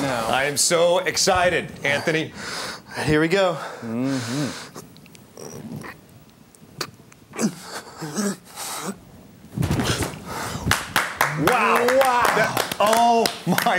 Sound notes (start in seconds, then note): 5.4 grunting; 10.6 clapping